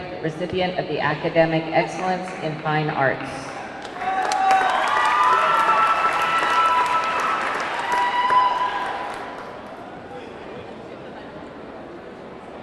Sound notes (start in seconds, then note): 3.2 audience clapping; 3.7 audience cheering